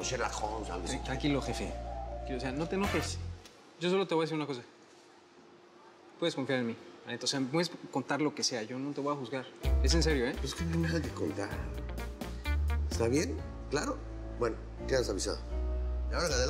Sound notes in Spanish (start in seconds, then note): none